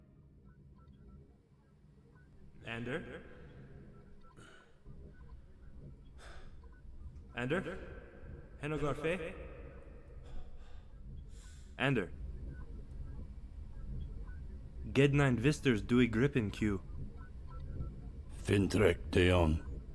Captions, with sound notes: (faint beeping) - Ander? Ander? (speaking in foreign language) Ander? (speaking in foreign language)